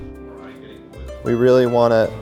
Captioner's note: muffled chatter